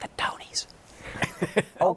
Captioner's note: laughter